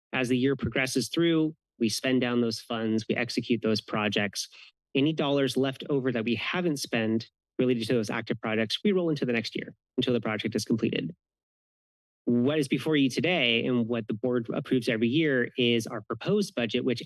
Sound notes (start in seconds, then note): none